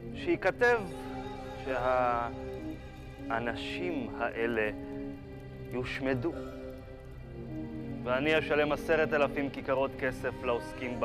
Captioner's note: speaking Hebrew